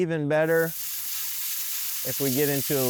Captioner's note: air hissing